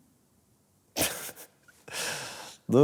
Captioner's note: laughs